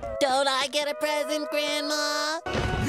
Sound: none

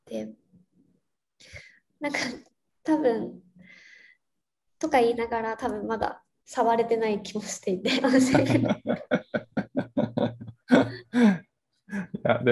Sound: laugh

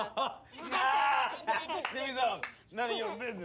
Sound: laughing

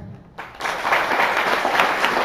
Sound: applause

